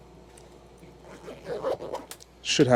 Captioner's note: zipper zipping up